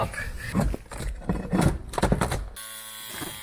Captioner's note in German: kratzen